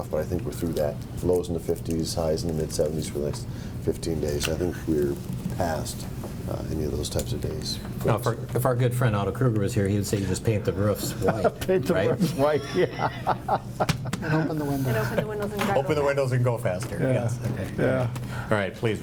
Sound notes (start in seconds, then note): 11.0 board members chuckle and laugh